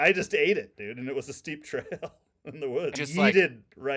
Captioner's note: laughing